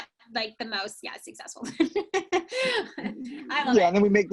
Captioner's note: laughs